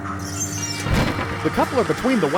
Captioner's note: clank